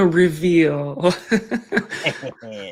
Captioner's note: laughs; chuckles; laughs